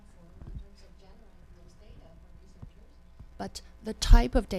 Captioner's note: speaking off microphone